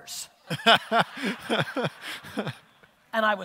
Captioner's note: audience laughter